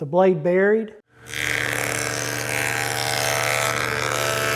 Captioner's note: machine humming